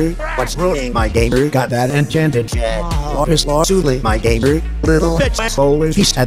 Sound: haha

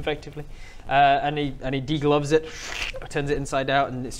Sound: schhrrk

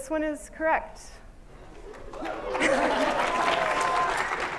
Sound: applause

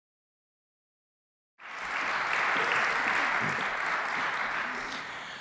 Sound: applause

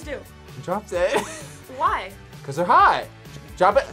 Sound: laughs

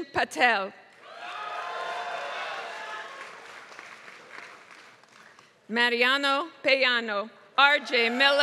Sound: applause

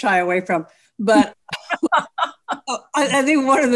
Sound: laughs

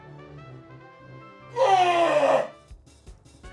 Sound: screams

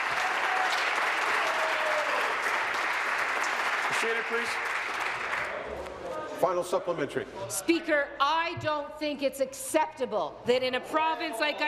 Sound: applause

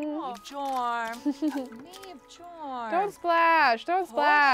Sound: laughs

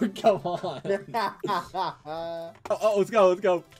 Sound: laughs

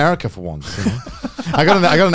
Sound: everyone laughs

